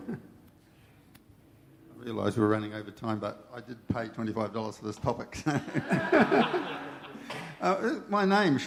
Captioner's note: laughter